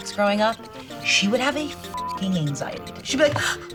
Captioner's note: beep